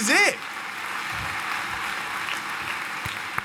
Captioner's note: applause